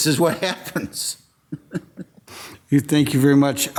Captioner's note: laughing